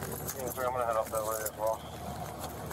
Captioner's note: radio chatter